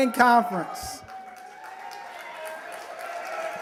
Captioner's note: applause